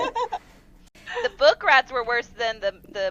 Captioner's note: laughter